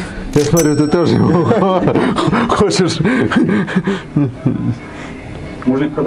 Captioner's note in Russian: смех